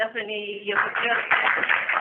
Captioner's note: applause